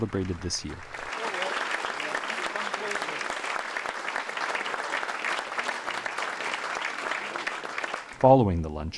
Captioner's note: applause